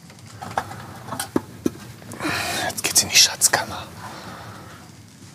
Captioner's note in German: flüstert